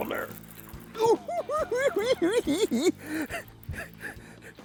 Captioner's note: hoo hoo hee hee